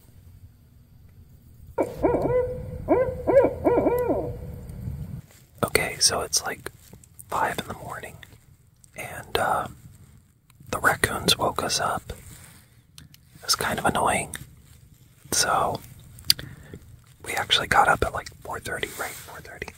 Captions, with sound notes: [Owl Hooting] Okay. So it's like five in the morning and the raccoons woke us up. It was kind of annoying. So we actually got up at like 4 30. Right? 4 30.